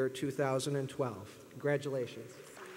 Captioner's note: applause